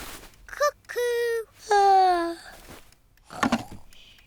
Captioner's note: yawns